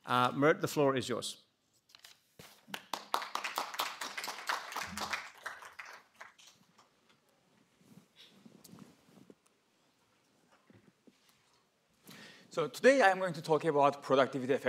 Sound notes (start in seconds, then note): 2.6 applause